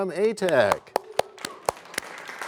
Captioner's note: applause